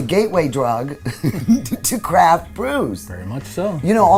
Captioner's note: chuckling